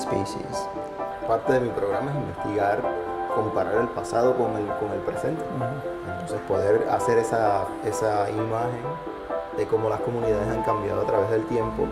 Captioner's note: speaking spanish